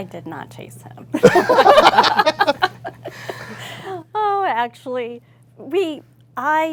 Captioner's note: laugh